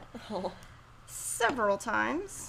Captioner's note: chuckles